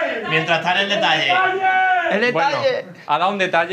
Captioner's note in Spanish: grita; grita